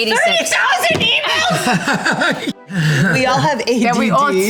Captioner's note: group laughs